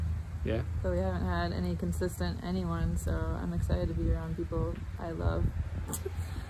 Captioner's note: laugh